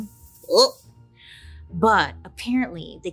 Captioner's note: snake hisses